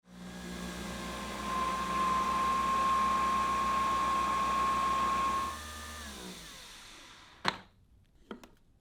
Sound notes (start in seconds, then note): 0.1 coffee machine whirring; 5.6 coffee machine winding down; 7.5 coffee machine click